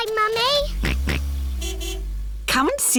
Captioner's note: car horn honks; george oinks